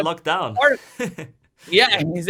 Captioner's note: laughing